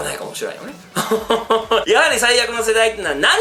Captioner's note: evil laughter